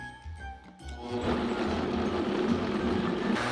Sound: blender running

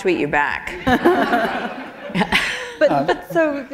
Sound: laughter

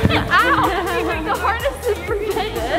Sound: laughs

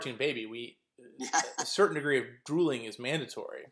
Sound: laugh

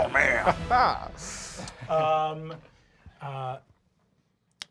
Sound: Fabian laughs

